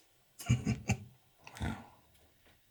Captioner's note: Anderson chuckling